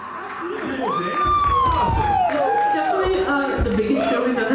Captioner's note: cheering